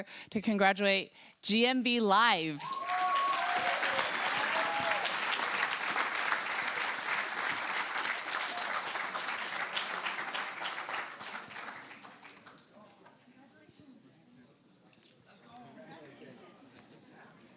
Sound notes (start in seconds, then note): 2.0 cheers, applause